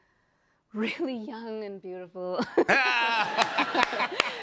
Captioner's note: cheers and applause